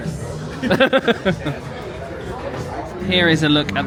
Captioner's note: vloggers laugh